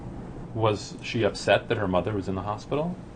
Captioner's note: voiceover